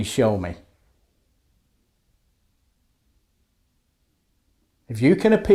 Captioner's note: silence